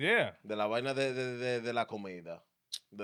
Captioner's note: speaking In Foreign Language